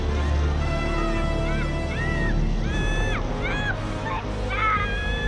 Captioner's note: Ben yelling